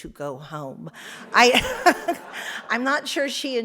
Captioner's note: audience laughs